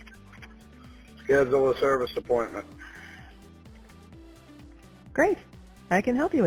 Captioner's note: male Voice